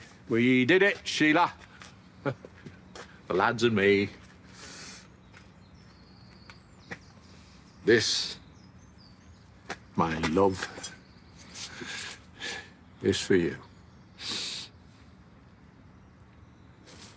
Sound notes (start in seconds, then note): 14.2 he inhales